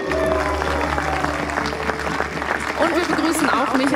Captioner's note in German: Applaus